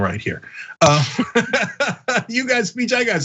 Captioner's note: laugh